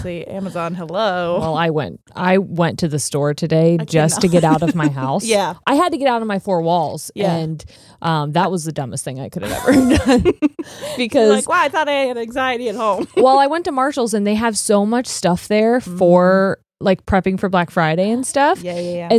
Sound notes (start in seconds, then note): 3.8 chuckles; 9.4 both laughing; 12.8 chuckles